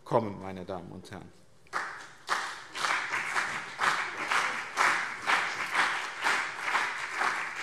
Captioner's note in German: Beifall BÜNDNIS 90/DIE GRÜNEN und CDU